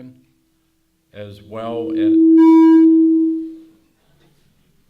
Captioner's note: microphone feedback